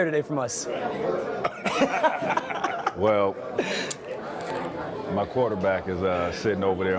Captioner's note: laughter